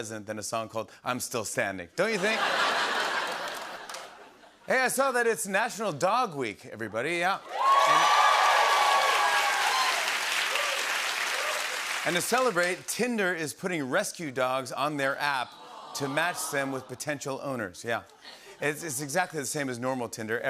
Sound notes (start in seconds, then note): 2.1 laughter; 7.4 cheers and applause